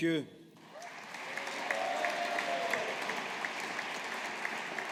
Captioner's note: audience applauding